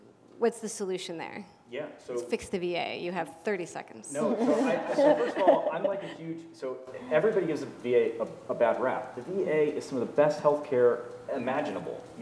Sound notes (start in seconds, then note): 4.2 laugh